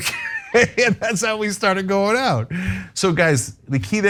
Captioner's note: laugh